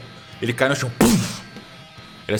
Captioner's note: thump